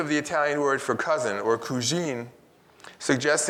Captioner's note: speaks in Italian